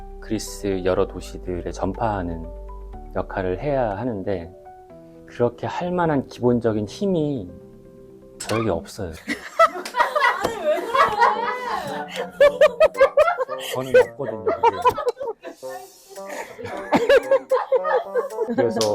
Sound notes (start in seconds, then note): 12.0 big laugh